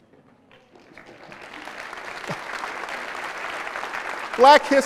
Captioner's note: applause